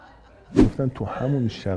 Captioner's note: laughter